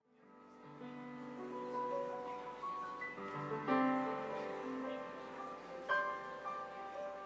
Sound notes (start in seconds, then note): 0.0 mellow piano music; 0.4 audience murmuring